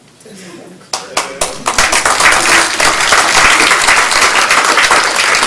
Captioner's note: applause